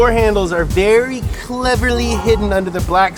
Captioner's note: tones chime